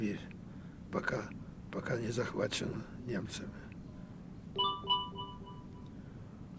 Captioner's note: phone ring